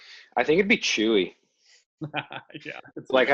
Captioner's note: laughter